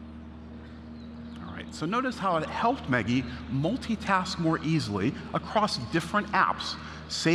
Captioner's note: none